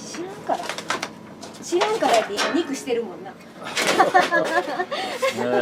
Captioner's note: laughs